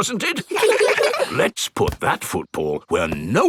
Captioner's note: in normal voice; kids laugh